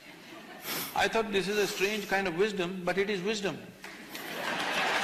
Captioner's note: laughter/Applause